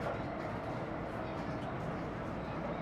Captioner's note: the train hums